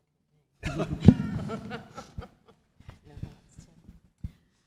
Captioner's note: panellists laugh